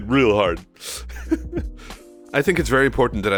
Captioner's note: laughs